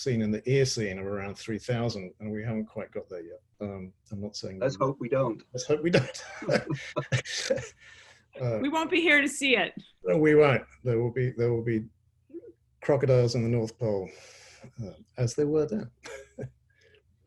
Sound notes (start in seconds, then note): 7.7 laughs; 15.2 chuckles